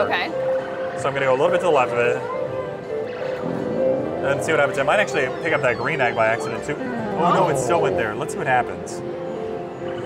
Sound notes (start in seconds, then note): 2.6 machine zips; 3.1 machine bleeps